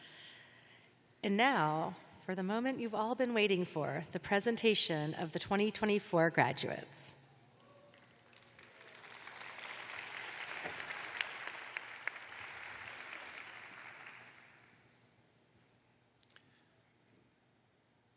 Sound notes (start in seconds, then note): 6.3 applause